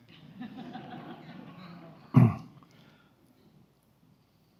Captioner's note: audience laughs